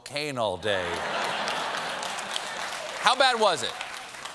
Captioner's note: applause